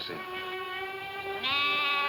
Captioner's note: lambs bleating; soft music